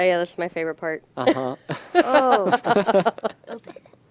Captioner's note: laughter